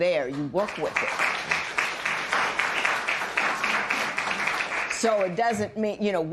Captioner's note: applause